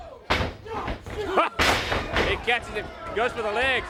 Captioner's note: crowd chatter